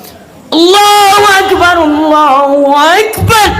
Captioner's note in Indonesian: berteriak